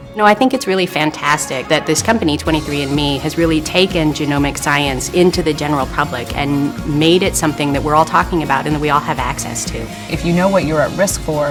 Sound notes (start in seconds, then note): none